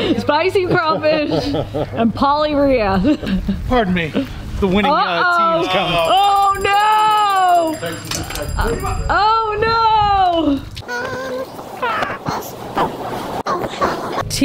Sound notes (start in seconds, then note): 5.7 bell ringing; 11.1 indistinct music